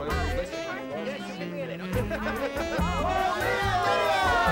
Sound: jazz music; party chatter

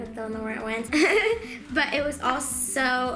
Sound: laughing

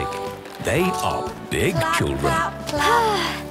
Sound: Belinda sighing

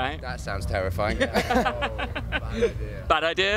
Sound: laughing

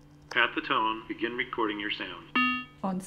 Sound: beep

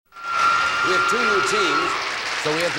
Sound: applause

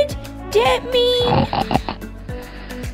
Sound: snoring!

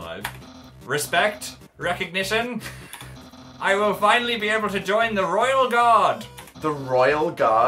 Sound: laughs

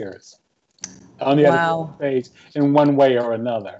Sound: faintly speaking

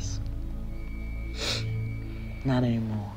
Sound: sniffles

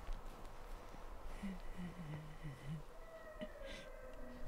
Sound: wind rustling

